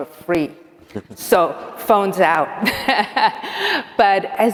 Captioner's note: laughs